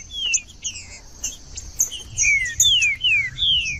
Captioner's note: trinca ferro cantando